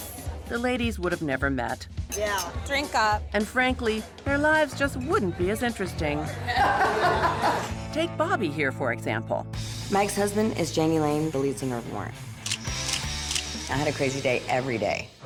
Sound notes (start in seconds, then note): 6.2 laughing